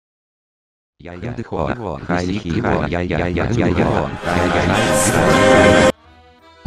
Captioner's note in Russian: шум немецкой армии